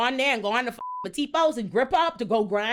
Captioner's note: beep